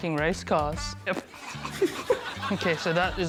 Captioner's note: chortles